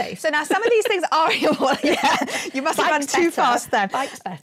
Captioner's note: laughing